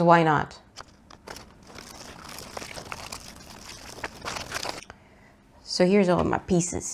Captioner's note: overlapping cacophony of paper cutting noises